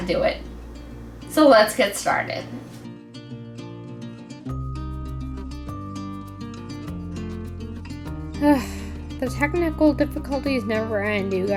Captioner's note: sigh